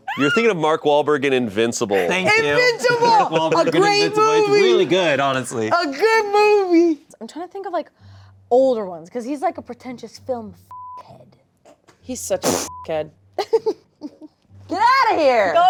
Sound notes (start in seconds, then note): 12.7 beep; 13.4 laughing